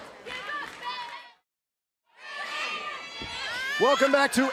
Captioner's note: cheers and applause